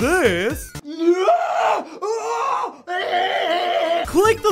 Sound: shrieks in pain

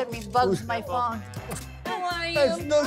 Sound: kisses

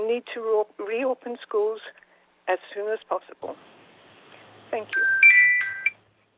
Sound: chime

